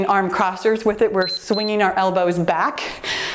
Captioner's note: timer beeps